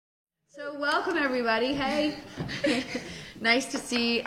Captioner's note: light laughter